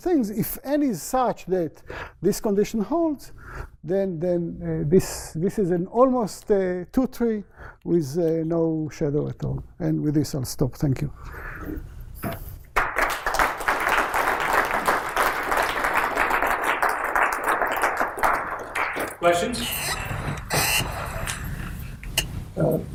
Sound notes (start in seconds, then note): 12.7 applause